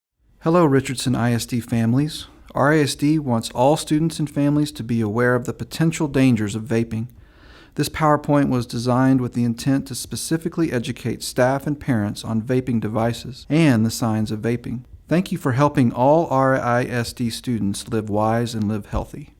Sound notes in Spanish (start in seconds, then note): 7.2 vaping